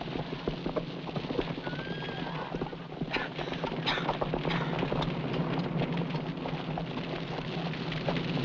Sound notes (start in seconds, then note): 3.8 coughing